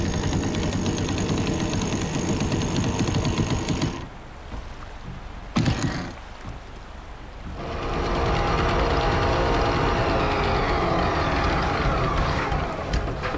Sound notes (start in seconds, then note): 2.3 boat engine purring